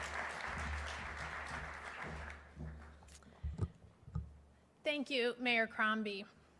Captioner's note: applause